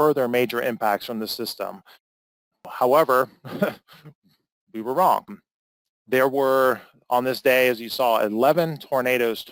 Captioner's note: laugh